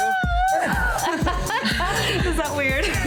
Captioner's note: laughing